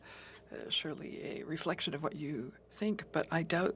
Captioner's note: speaking French